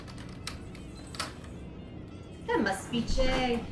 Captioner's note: lock rattling